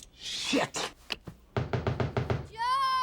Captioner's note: knock on door